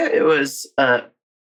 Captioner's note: laughing